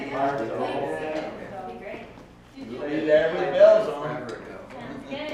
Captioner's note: indistinct chatter